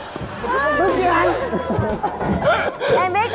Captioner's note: laughter